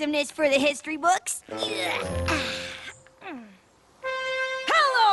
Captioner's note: grunting continues